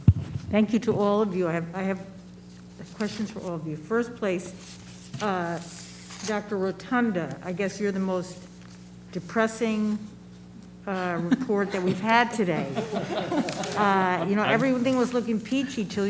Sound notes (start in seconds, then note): 13.9 laughter